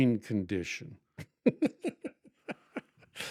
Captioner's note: laughing